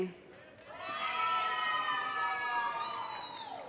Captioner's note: audience cheers and applause